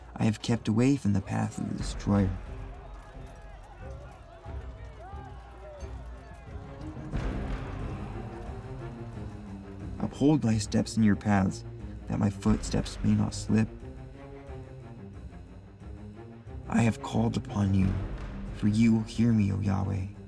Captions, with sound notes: I have kept away from the path of the destroyer. (army chanting) (dramatic orchestral music) Uphold Thy steps in Your paths, that my footsteps may not slip. I have called upon You, for You hear me, oh, Yahweh.